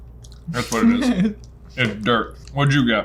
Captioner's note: laughs